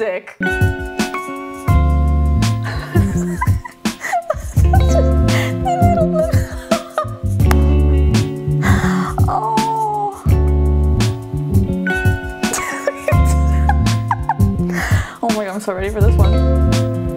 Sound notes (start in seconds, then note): 0.1 soft jazz music; 2.6 giggling; 7.6 laughing, claps; 12.5 laughing